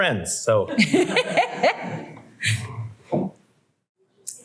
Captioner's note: laughing